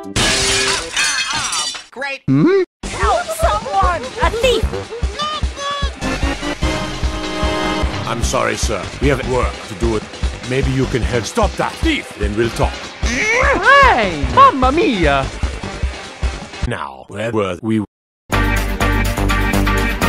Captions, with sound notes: Ah- ah- aww, great! Hm? Noot noot! *another groan* Fine! Mama-mia!